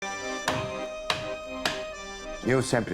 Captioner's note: chopping board banging